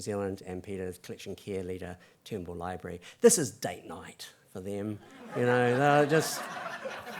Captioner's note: laugther